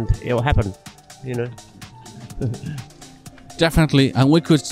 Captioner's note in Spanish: risas